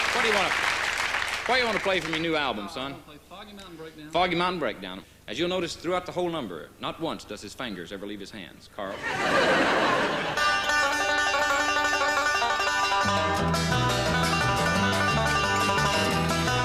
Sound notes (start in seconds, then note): 8.9 audience laughing